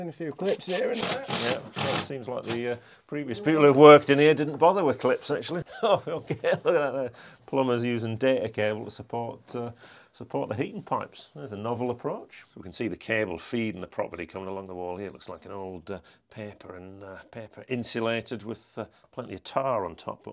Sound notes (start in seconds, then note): 0.4 drill whirring; 5.6 chuckles